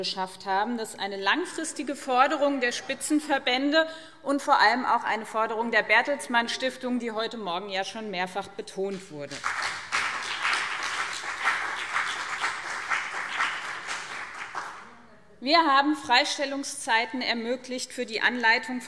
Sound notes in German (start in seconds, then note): 9.2 Beifall BÜNDNIS 90/DIE GRÜNEN und vereinzelt CDU